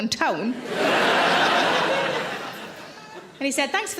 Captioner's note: audience laughing